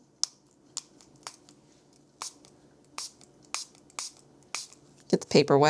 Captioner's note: spray bottle clicks